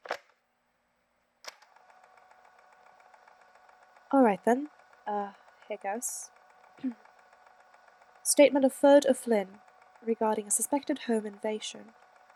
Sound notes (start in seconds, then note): 1.4 tape recorder starts; 5.8 clears throat